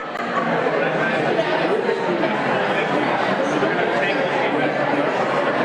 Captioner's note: audience conversing